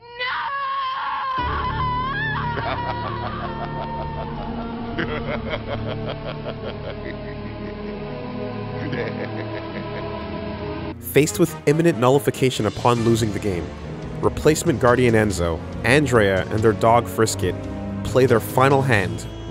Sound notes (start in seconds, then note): 2.5 Megabyte laughs